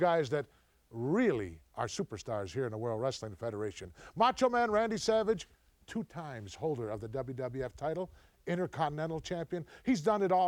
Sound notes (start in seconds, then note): none